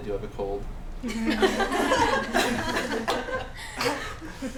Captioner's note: laughter